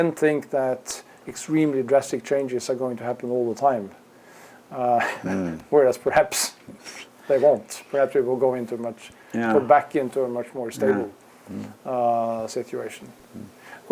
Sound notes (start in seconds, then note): 4.9 laugh